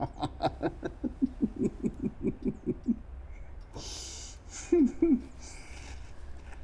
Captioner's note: laughter